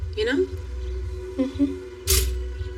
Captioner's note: toaster popops